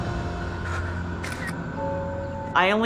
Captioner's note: camera shutter